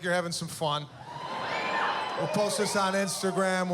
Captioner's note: cheering